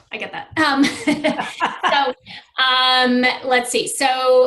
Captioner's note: laughs